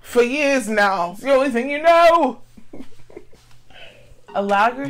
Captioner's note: laughing